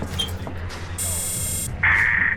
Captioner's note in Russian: дверной звонок